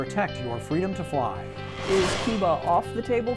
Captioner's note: whooshing